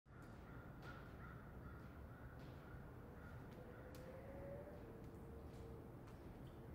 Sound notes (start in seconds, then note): 0.1 bird caws in distance; 2.3 wind howls softly